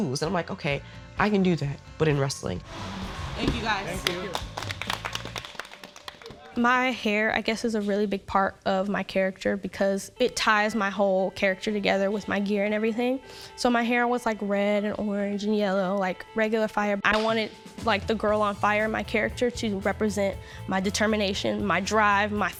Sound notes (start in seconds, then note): 3.8 group claps